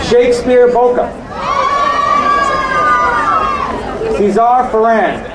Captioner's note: crowd cheering